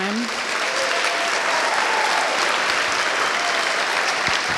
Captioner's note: applause